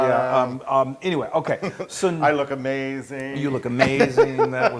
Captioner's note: laugh